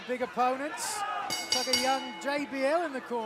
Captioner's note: bell ringing